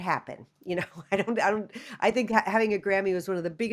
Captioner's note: laughter